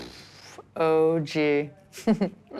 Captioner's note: chuckles